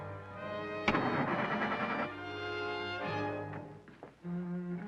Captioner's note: engine puttering